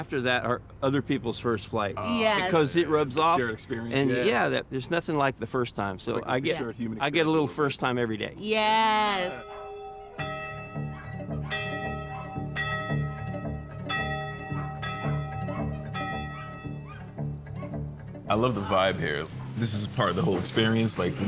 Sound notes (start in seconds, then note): 9.0 bell ringing; 9.2 dogs barking